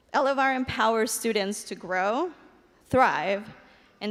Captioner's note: none